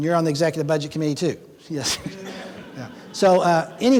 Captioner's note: laughing